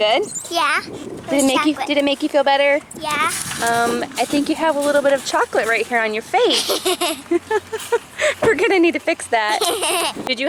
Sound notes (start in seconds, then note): 6.5 both laughing